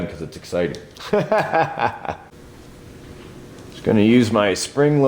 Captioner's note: laughs